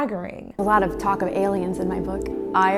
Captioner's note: TikTok voiceover